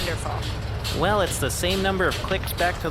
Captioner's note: mechanical noises as the crystal is used